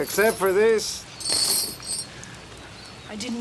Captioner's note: chain rattles